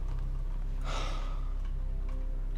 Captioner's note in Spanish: suspiros